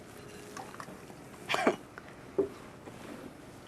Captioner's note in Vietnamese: cười